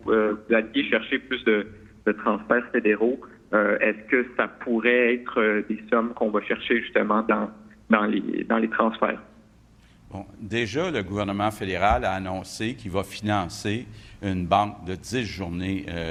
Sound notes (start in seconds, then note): 12.7 speaks French